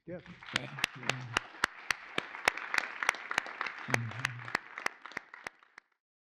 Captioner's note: applause